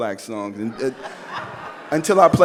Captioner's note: audience laughs